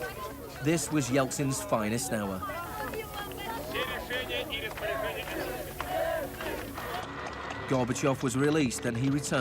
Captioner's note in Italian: eltsin parla in russo